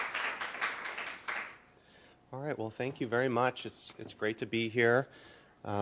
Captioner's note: applause